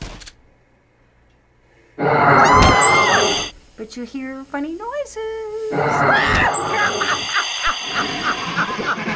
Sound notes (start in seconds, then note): 0.0 silence; 2.0 deep hissing; 2.2 screams; 3.5 singsong; 5.5 deep hissing; 5.9 laughing; 8.9 figure laughs